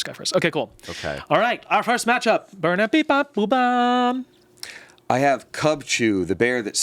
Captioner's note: vocalizes